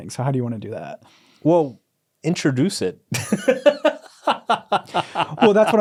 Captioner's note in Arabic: يضحك